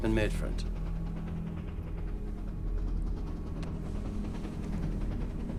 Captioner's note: train tracks rattling